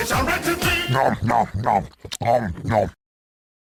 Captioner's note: Heavy munching noises from TF2